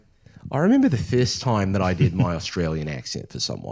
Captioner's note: Australian accent